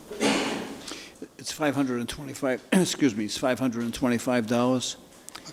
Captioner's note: clears throat